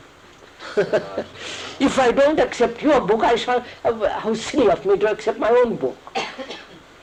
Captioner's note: laughs